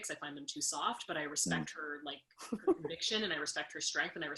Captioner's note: laughs